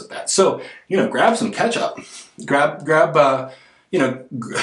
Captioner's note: laughs